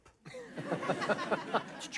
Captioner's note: laughter